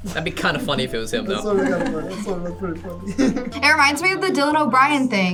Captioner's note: laughs